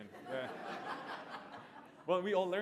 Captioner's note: laughter